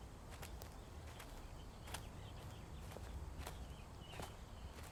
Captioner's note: birds chirping